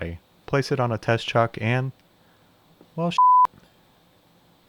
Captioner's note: beep